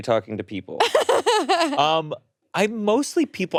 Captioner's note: laughing